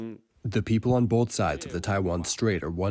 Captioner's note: through translator